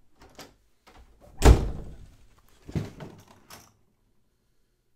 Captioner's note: door thuds